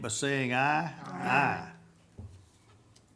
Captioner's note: group chanting